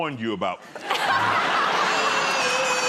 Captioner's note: laughter